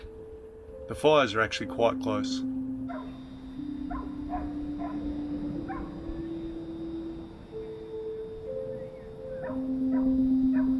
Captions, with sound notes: The fires are actually quite close. (ominous music) (dog barking)